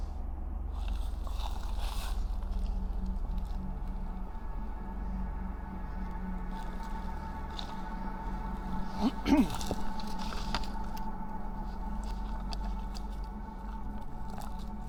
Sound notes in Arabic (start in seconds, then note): 0.1 تستمر الموسيقى الإلكترونية الغريبة; 8.9 ينظف الحلق; 9.5 تستمر الموسيقى الإلكترونية الغريبة